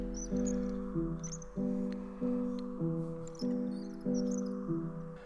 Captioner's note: toy car tires screeching